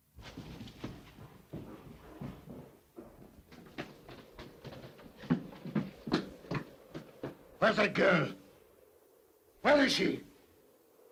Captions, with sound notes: (scrambling footsteps) (Joss's footsteps) - Where's that girl? Where is she?